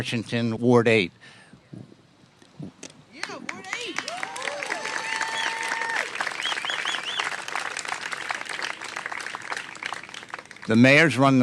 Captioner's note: applause